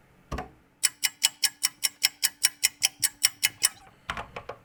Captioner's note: ticking clock